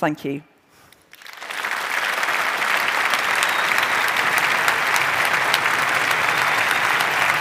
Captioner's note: applause